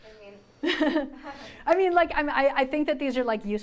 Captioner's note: laughs